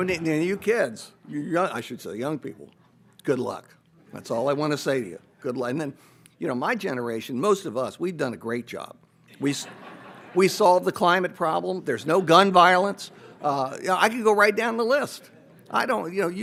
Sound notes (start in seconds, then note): 9.3 audience laughs